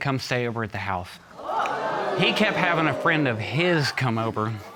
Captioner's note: audience gasps